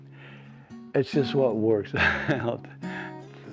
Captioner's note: laughs